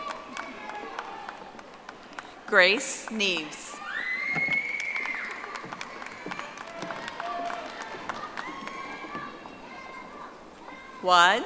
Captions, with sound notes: (audience applauding) Grace Neves. (audience applauding)